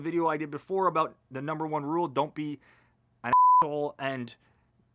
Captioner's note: beep